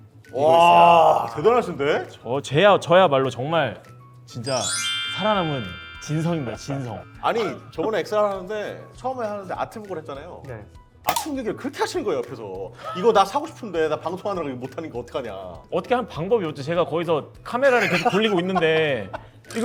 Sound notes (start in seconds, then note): 12.6 haha